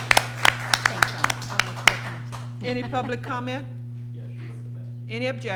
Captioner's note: applause